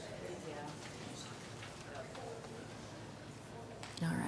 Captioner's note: audience murmuring